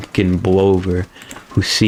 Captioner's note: inhales Oxygen